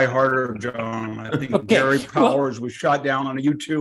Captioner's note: laugh